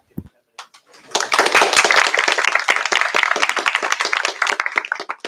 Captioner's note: applause